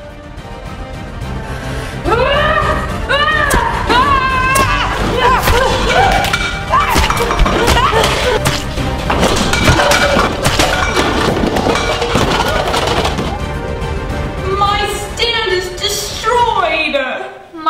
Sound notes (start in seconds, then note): 2.2 yelling; 4.2 squishing; 6.9 clattering